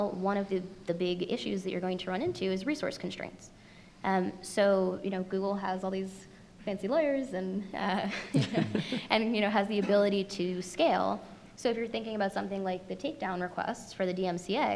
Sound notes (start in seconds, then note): 8.0 laughs